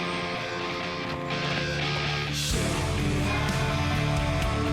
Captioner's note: none